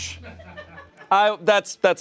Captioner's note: audience members chuckle